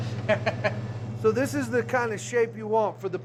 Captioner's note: laughter